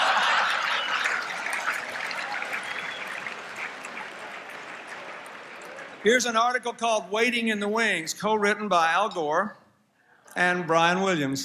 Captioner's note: applause, Laughter